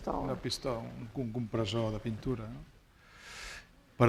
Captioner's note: speaking spanish